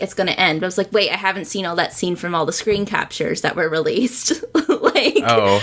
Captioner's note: laughs